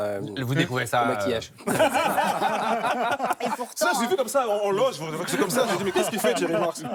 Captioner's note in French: rires